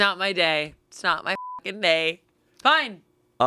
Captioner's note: beep